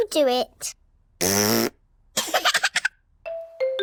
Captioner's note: laughs; blows raspberry